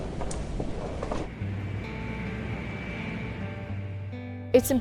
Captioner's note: engine rumbling